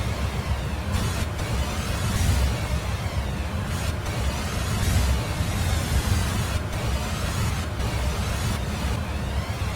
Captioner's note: eerie sound